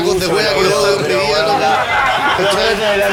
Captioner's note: laughs